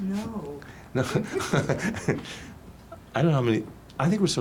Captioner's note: laughing; laughs